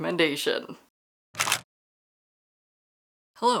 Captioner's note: camera shutter